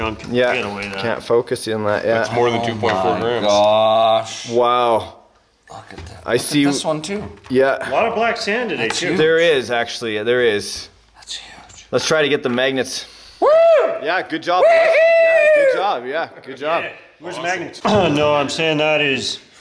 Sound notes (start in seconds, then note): 14.5 whooping